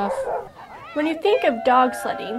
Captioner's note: barking; cheering